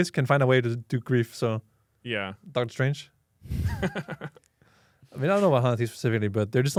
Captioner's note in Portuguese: risos